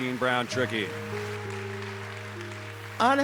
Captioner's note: applause